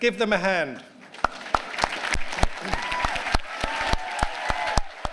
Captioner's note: applause and cheers